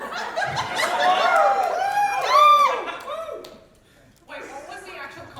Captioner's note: audience reaction